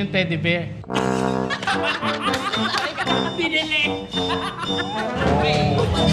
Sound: laughs

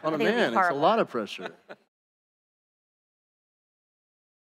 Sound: laughter

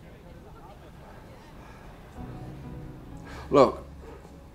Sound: breathes deeply

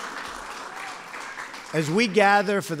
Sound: applause

